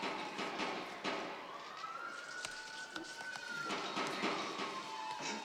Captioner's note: movie: Sirens, Gunfire